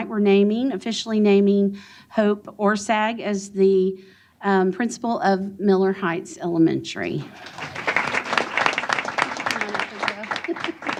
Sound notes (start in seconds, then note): 7.3 applause